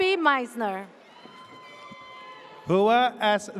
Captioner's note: audience cheers